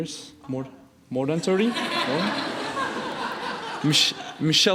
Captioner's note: laughing